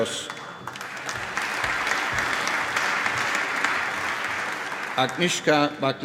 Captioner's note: applause